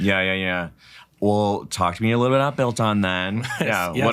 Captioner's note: chuckles